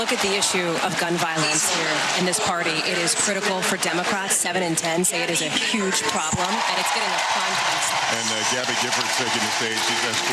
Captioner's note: applause